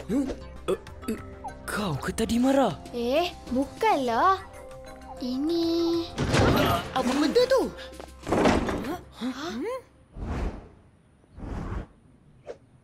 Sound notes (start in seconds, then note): 5.9 loud thud; 8.1 clattering